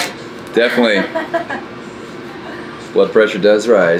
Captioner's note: woman laughs